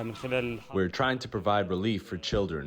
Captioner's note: through translator